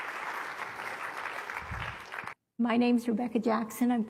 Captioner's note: applause